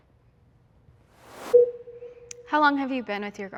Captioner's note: transition whooshes; transition bleeps